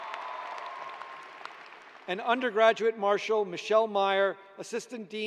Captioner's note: cheers and applause